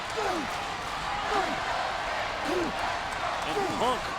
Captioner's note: Punk grunts